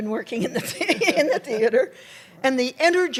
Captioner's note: laughter